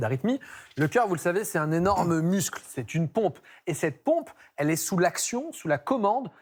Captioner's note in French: raclement de gorge